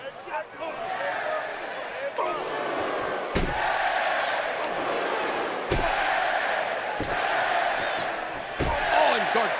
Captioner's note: crowd cheering